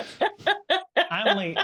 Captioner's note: laughing